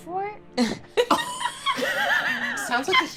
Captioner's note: laughing